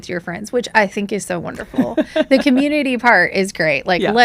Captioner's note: laughs